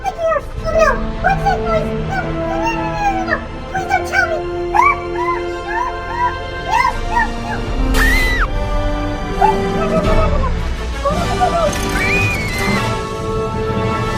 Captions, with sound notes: Oh, no! What’s that noise? No. No, no, no, no, no. Please don’t tell me! (EXCLAIMING) No, no, no! (SCREAMS) Wait! No, no, no, no, no! Don’t open the gate! (SCREAMING)